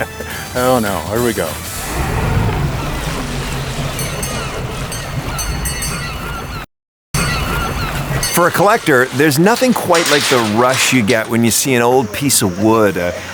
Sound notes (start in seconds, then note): 0.2 laughs; 3.8 bell dinging